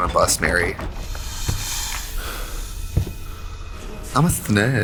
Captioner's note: suspenseful music; snake hissing